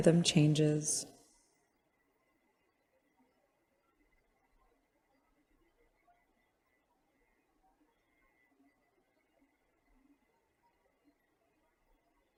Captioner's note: silence